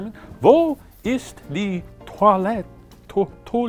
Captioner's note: speaking German